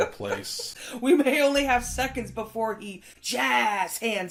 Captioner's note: laughing